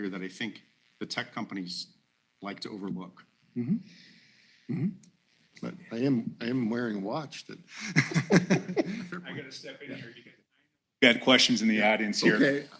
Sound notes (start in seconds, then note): 7.8 laughter